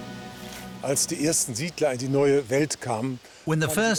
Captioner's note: speaking German